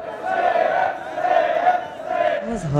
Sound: students chanting

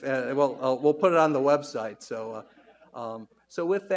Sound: audience laughs

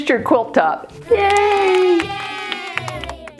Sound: crowd

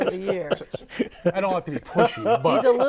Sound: laughing

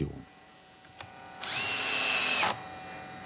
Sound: shrill drilling noise

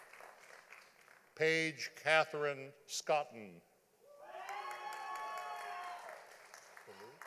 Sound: audience applauding

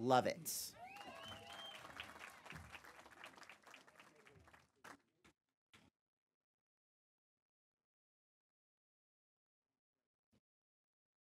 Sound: applause

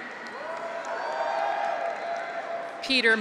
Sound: audience applauds; graduates cheer

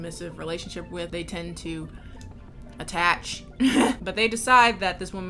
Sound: laughs

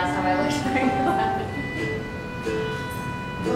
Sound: laughing

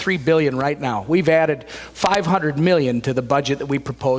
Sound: none

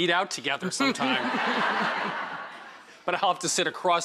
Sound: laughter

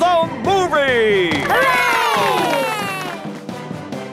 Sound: heroic music; applause

